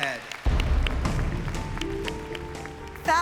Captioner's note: applause